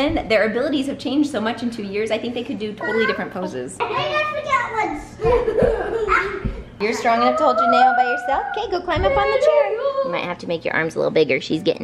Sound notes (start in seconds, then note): 2.7 kids giggling and talking over each other